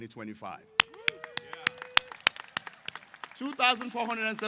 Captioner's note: applause